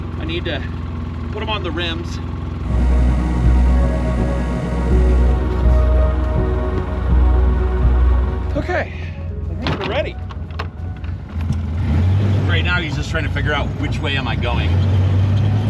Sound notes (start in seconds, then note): 2.6 engine rumbling; 2.6 gentle music